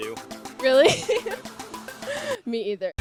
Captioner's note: laughs